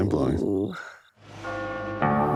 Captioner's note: sighs; eerie music playing